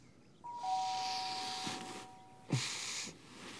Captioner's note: doorbell rings; groaning